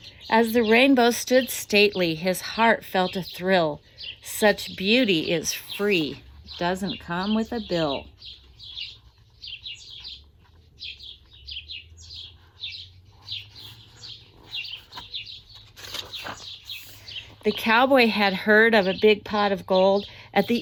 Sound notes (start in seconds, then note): 10.1 birds chirping